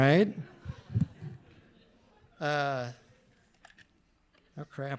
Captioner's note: audience laughing